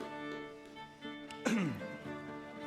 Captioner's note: clears throat